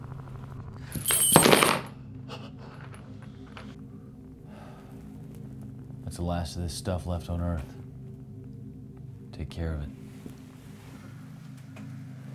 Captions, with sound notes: [Mayfly breathes] That's the last of this stuff left on earth, take care of it.